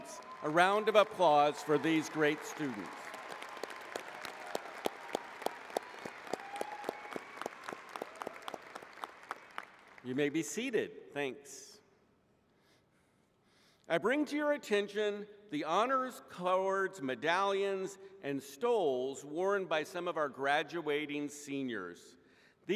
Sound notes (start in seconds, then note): 3.9 applause